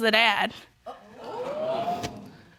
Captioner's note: audience gasps